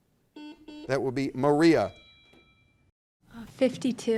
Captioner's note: buzzer dings; bell rings